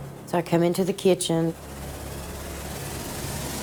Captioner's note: none